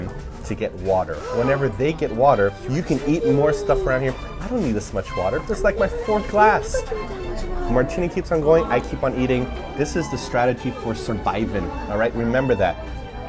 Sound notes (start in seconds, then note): 2.6 gasps